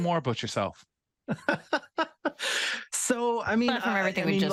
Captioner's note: laughs